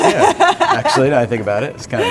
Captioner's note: laughs